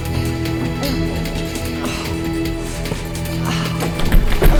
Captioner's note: Katie groaning